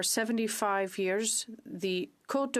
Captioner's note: speaking French